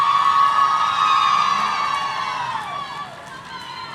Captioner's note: audience cheering